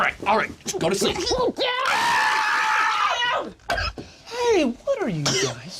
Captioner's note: screaming